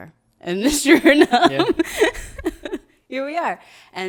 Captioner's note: laughs